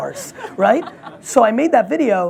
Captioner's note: laughs